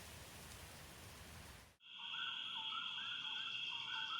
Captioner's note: wildlife chirping